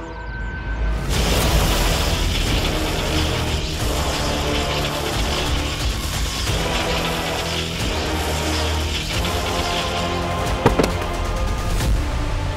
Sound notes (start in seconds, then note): 1.0 dramatic music plays; 10.6 thud